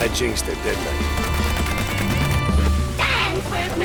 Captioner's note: gunfire